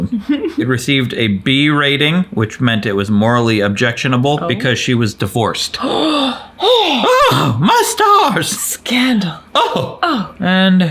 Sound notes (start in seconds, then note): 0.0 chuckles; 5.8 gasps; 9.5 gasp